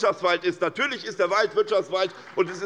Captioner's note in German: Beifall bei der SPD